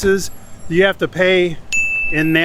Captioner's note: chime rings